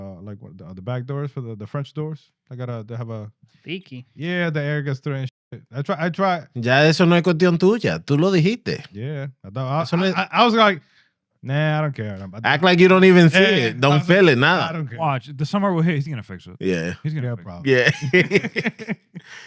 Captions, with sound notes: the back doors, for the French doors. I gotta have a-- Sticky. Yeah, the air gets through and I tried. (Speaking In Foreign Language) Yeah, I was like, nah, I don't care. Act like you don't even feel it. Don't feel it now. I don't care. Watch, the summer, well hey, he's gonna fix it. Yeah. (Laughing)